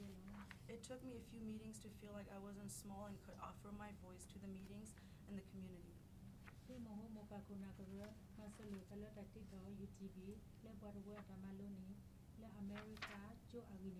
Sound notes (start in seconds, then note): 6.9 speaking in foreign language